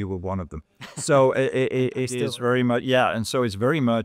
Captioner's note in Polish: śmiech